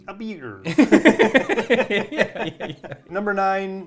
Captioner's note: both laughing